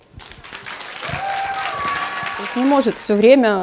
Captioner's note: sounds of applause